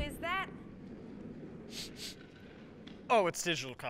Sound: sniffing

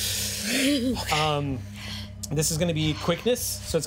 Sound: exhale

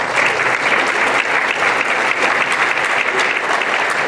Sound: applause

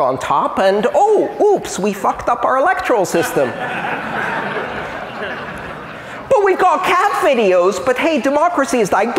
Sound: laughter

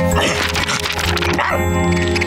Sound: barking

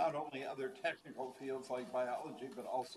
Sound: none

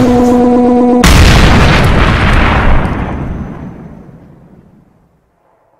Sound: explosions

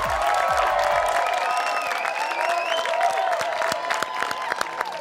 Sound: audience applauding

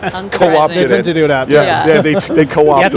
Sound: hosts and guests chattering

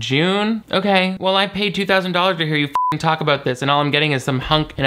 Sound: beep

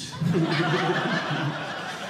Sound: audience laughing

